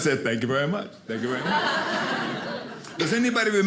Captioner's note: audience laughing